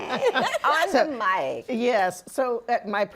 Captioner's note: laughter